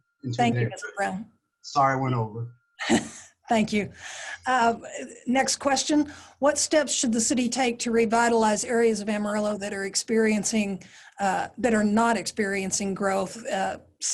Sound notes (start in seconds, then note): 2.8 chuckles